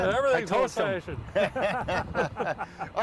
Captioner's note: laughing